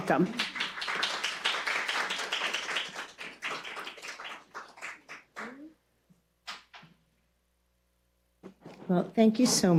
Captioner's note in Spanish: aplausos